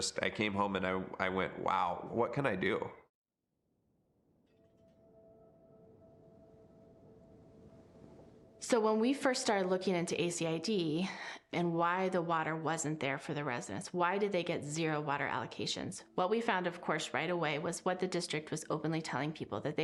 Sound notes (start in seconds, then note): none